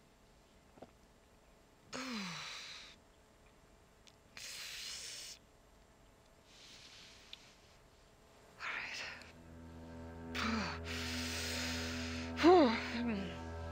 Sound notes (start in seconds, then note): 2.3 Brigit exhales; 10.8 Brigit exhaling